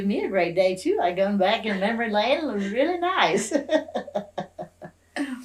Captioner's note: laughs